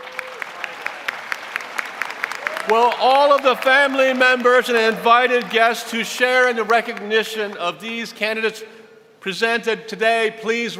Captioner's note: applause